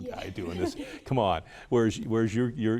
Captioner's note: group chuckles